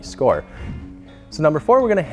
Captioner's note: whoosh